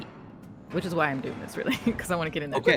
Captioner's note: chuckles